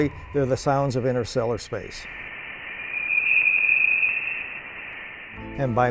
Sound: Interstellar space sound file

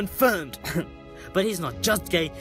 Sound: cough

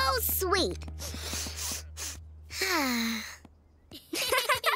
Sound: sniffs; laughter

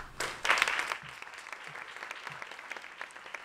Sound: applause

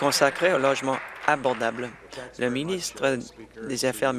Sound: applause

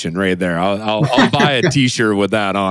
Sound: laughs

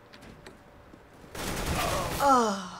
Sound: gunfire; in game: death groan

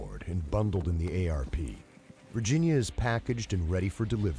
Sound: voiceover

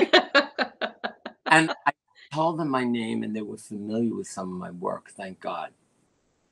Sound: laughter

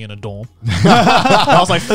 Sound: laughing

